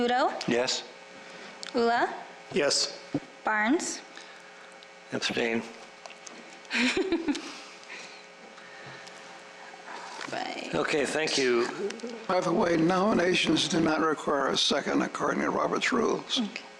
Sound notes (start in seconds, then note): 6.6 chuckles